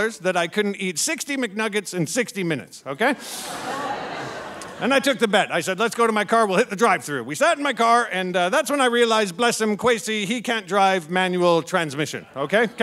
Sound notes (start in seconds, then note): 3.1 audience laughing